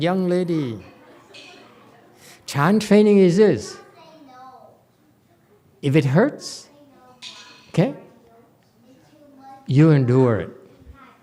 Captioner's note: laughs